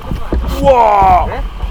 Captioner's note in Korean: 감탄